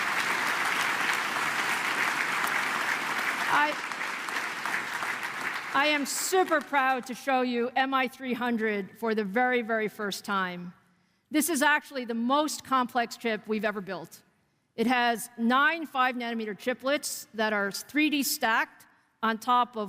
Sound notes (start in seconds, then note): 3.0 applause